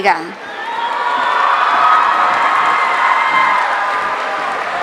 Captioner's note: audience cheering